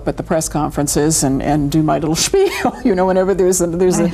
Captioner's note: chuckling